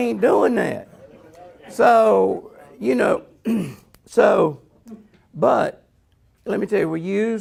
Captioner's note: clears throat